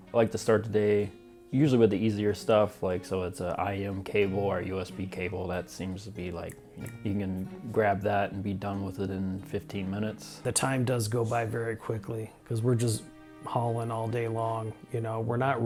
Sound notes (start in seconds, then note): 6.4 snaps